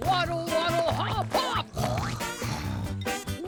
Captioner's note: snore snore